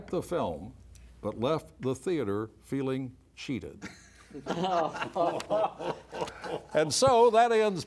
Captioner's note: laughter